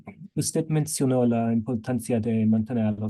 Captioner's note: speaking spanish